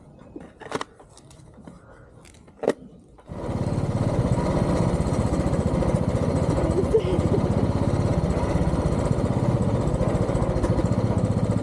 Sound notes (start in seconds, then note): 3.2 motorbike engine